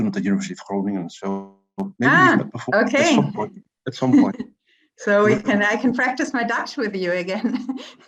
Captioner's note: laughter